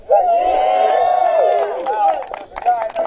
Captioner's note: applause